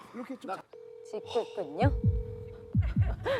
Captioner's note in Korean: 휴대전화 통화 연결음